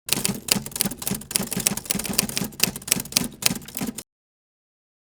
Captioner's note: keyboard keys clacking